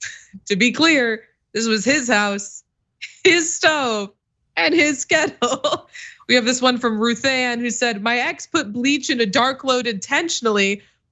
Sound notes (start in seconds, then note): 5.5 laugh